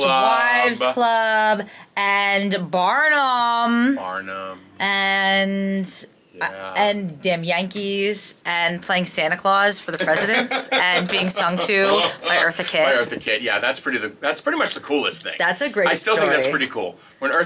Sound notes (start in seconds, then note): 10.0 laughing